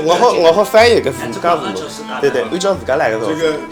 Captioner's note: wu Chinese; wu Chinese